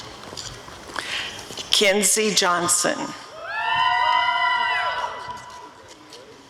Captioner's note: audience cheering